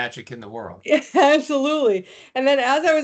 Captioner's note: chuckling